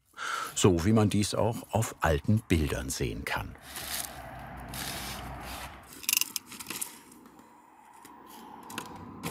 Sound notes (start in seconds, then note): 5.7 rotating noise